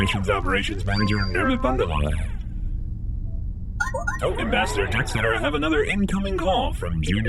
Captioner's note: beeps and boops of an incoming transmission